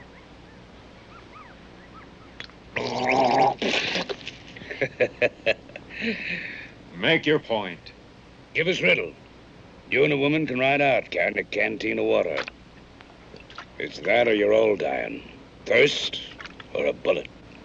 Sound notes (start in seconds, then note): 2.7 gargling; 2.7 spits; 4.6 laughing